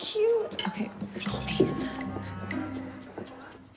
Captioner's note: whispering